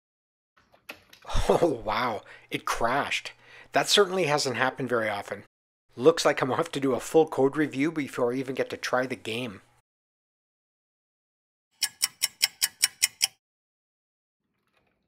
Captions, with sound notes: Oh wow, it crashed! That certainly hasn’t happened very often. Looks like I’m off to do a full code review before I even get to try the game. [sound of a ticking clock]